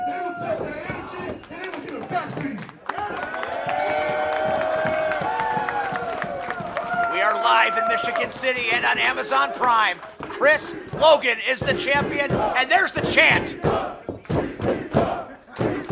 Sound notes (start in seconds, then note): 3.9 crowd cheering; 13.8 crowd chanting